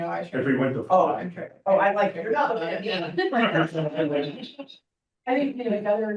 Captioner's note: laughs